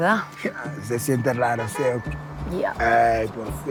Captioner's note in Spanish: Claxon